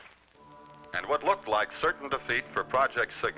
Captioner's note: radio Announcer